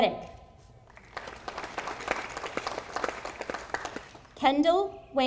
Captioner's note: audience applauding